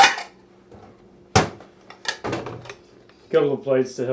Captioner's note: clank, clank; cupboard door shut